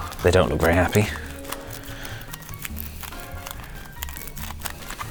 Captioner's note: tin foil scrunches